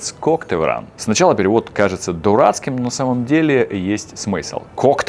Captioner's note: Russian